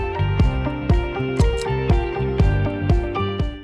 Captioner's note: click